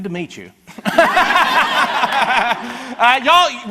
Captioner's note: and audience laughs